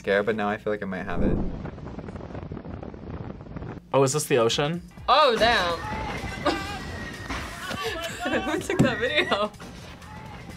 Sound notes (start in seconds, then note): 7.3 laughs